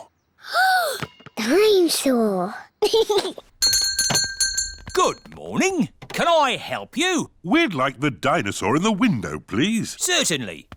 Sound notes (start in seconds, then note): 0.2 gasps; 2.8 giggles; 3.6 bell rings